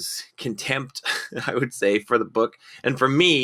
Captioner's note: laughing